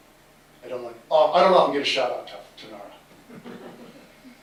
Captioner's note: laughter